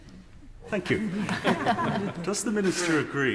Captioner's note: members laugh